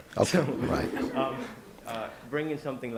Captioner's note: laughs